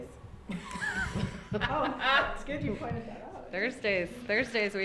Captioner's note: all ladies laughing